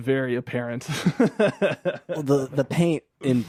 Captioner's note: laughing